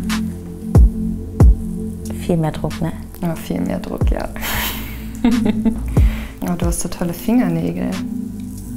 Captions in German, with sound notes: (Dynamische Musik) Viel mehr Druck, ne? - Viel mehr Druck, ja. (Kichern) Du hast so tolle Fingernägel.